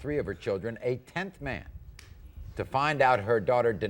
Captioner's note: none